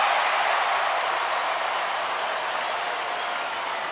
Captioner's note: crowd cheering